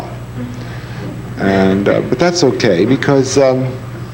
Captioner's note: audience laughing